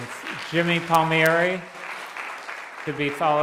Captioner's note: applause